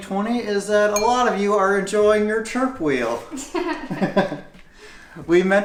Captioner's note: laughter